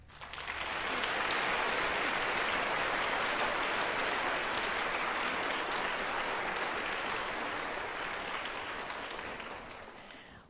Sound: applause

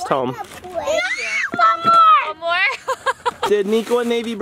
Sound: laughs

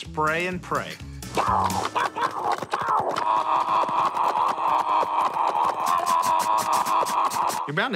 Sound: screaming; making bullet noises

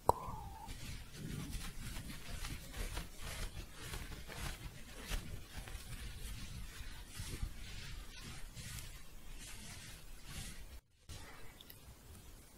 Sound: scratching and shuffling

